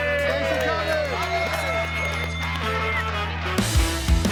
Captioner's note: bell rings